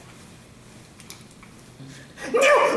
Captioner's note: pen clicks